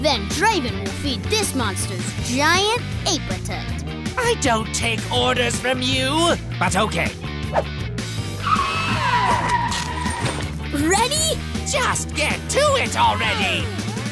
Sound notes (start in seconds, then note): 7.6 wind whooshes; 8.2 tires screeching